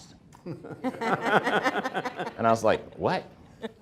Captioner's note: everyone laughing